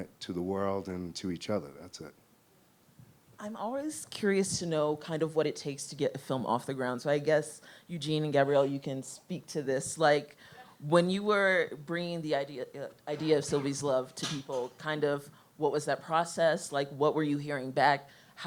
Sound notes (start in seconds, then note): none